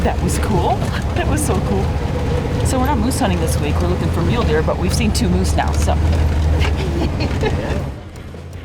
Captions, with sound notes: That was cool. That was so cool. So we're not moose hunting this week, we're looking for mule deer but we've seen two moose now, so.(chuckles)